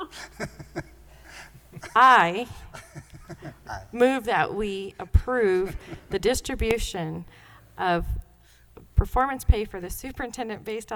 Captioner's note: laughter; laughter